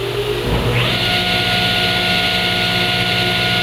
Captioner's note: machine humming